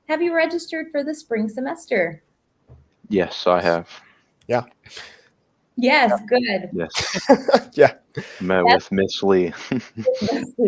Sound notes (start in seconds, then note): 6.8 laughs